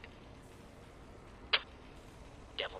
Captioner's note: spit